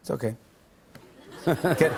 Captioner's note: laughter